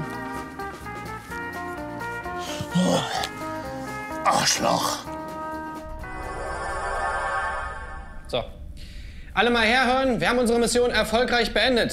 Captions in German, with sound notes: (Idyllische Musik) (Erschöpfte Laute) Arschloch. (Flirrende Geräusche) So, alle mal herhören, wir haben unsere Mission erfolgreich beendet.